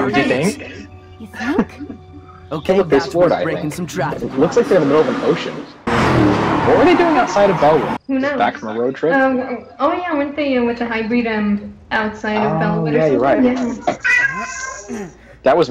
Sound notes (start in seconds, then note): 14.0 meowing